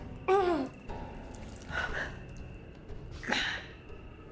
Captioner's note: Claire groans